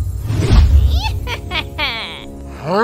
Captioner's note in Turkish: Gülme sesi